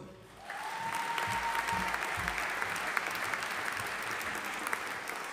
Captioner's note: audience applauding